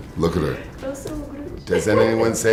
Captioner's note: speaks in foreign language